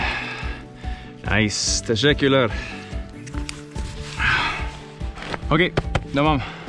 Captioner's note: speaks foreign language